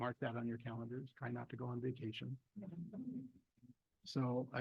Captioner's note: board members laugh